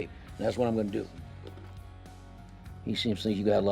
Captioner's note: none